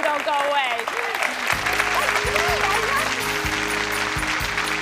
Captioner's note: clapping